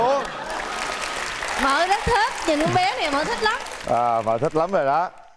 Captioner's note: applause